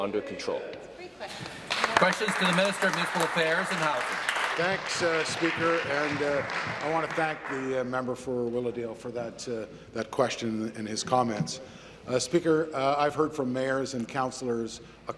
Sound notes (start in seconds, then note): 4.6 applause